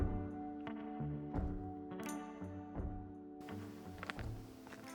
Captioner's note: machinery whirring